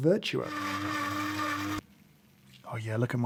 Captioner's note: coffee machine whirring